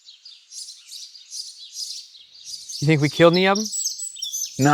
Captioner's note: birds chirp